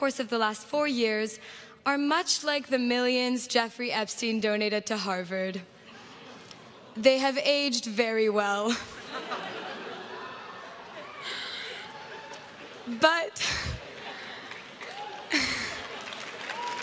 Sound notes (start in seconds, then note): 8.6 crowd laughs; 13.8 crowd claps and cheers